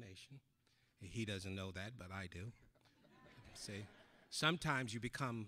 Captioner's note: audience laughing